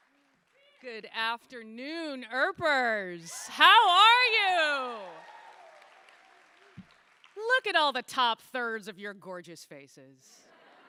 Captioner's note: cheers/Applause